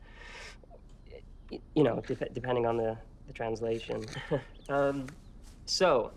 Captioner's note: chuckles